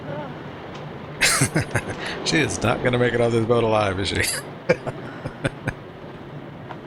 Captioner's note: laughing